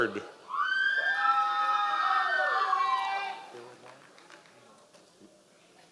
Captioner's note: members of the audience cheering